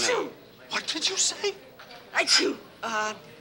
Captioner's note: Arlo sneezes